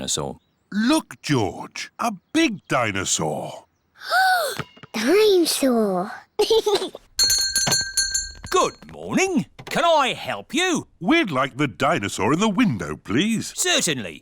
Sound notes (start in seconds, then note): 3.7 gasps; 6.4 giggles; 7.2 bell rings